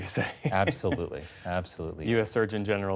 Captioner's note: laughter